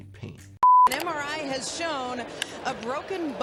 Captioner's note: beep